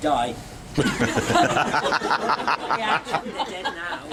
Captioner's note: laughter